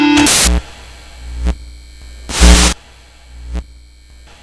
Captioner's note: electricity zapping